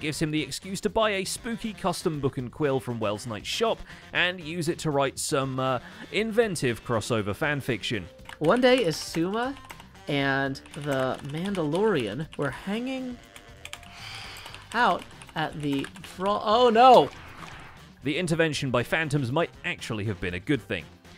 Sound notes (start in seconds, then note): 16.1 phantoms screech